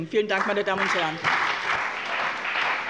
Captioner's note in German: Beifall bei dem BÜNDNIS 90/DIE GRÜNEN und der CDU